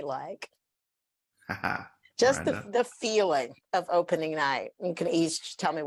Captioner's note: laughs